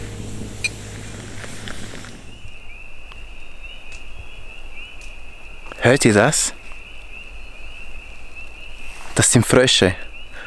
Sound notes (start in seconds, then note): 2.8 loud beeping in the distance